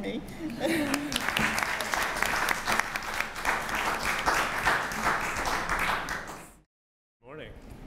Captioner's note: applause